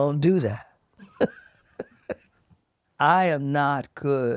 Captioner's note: laughs